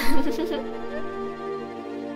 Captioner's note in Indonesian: Tertawa